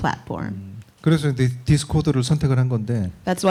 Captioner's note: speaking korean